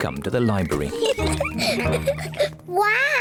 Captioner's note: laughter